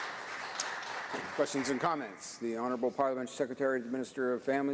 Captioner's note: some Applause